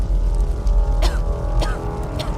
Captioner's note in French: tousse